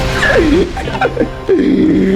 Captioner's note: laughs to myself; inhales Oxygen